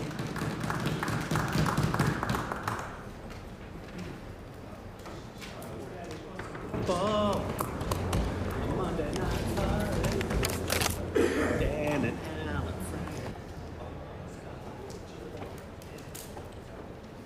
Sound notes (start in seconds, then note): 3.2 applause